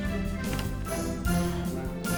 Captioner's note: door opens